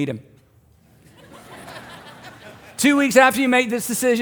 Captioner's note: congregation laughs